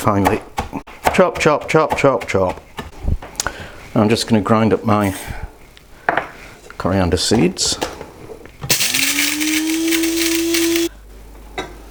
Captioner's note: buzzzzzz